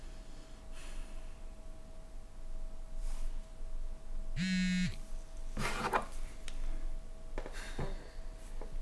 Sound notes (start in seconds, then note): 4.3 phone vibrates